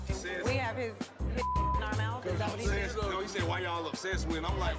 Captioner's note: beep